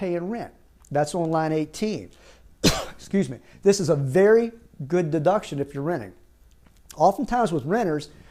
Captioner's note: coughs